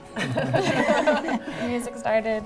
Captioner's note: laughing